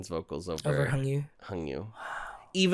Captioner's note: quietly